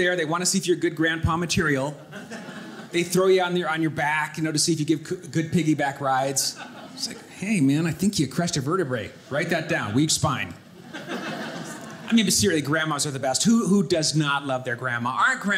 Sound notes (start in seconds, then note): 10.7 audience laughing